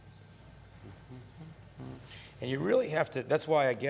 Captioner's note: humming